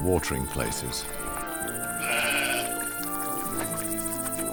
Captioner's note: sheep bleats